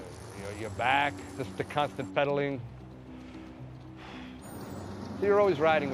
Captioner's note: sighs